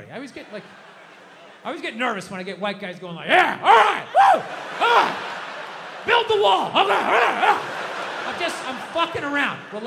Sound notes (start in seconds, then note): 7.1 Bill grunts